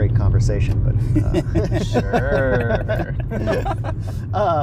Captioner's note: group laughter